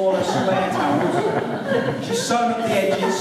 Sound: laughter

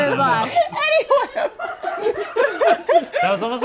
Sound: all laugh

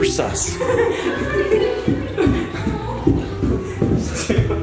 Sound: kids laughing

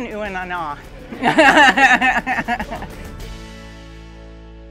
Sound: crowd laughing

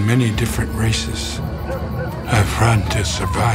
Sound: dogs barking

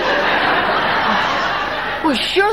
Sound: audience laughing

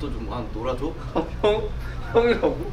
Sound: laughing from the bottom of his heart

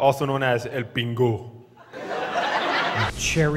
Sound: laughters

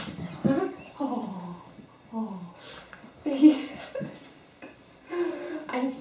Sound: laughter

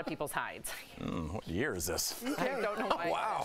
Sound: laughter

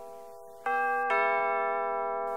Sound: doorbell rings

